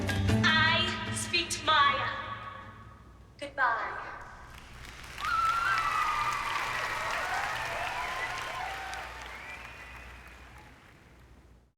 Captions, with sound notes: I speak to Maya. Good-bye. (applause)